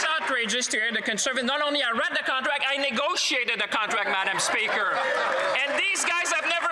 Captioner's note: some Applause